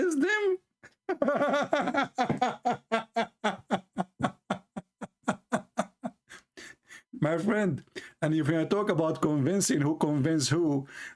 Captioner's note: Ketawa